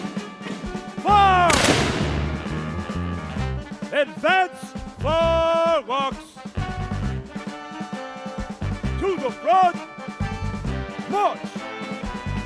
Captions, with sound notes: Fire! (gunshots) Advance firelocks. To the front, march!